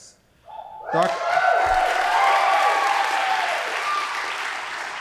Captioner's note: audience applauding